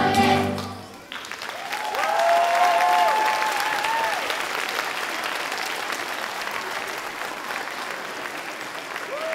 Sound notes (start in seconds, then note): 1.3 audience cheering